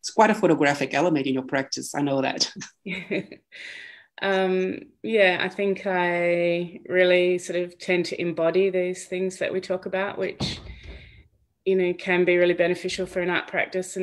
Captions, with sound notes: It's quite a photographic element in your practice, I know that. (laughs) - Yeah, I think I really tend to embody those things that we talk about, which can be really beneficial for an art practice,